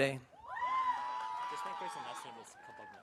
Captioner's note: audience cheering